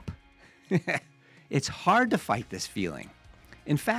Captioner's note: laughs